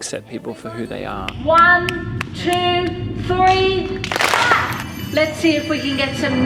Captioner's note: claps